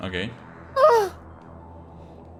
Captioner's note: gasp